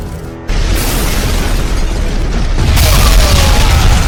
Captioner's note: explosion boom; explosions booming; men groaning